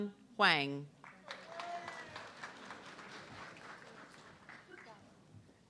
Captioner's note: audience clapping